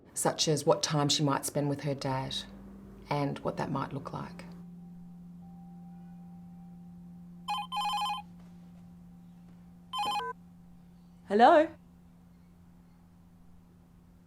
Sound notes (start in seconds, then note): 7.4 telephone rings